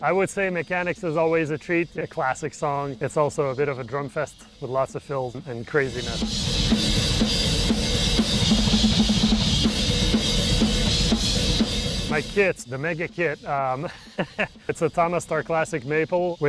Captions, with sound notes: I would say "Mechanix" is always a treat, a classic song. It's also a bit of a drum fest, with lots of fills and craziness. (upbeat drum solo) My kit, the Mega Kit, (chuckles) it's a TAMA Starclassic maple